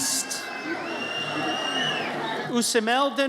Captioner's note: audience cheers